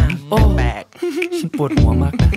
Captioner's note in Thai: ฮึ ฮึ ฮึ